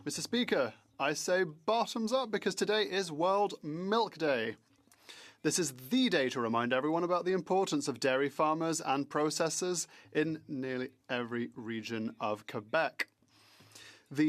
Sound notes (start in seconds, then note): 2.3 speaking French